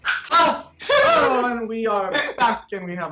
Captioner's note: snapping; gasps